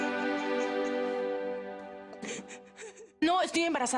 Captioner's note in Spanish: Sollozos